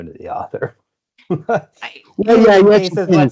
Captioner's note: laughs